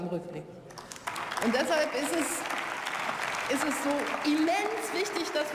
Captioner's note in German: Beifall